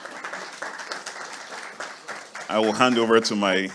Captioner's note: audience applauding